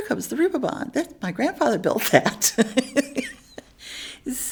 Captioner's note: laughs